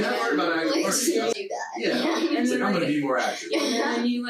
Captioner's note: group chattering